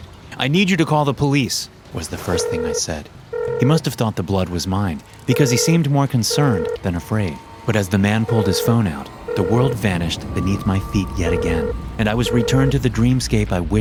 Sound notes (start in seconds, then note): 2.2 phone ringing